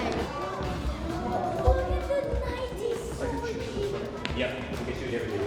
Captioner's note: kids chattering